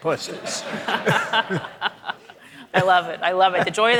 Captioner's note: audience laughing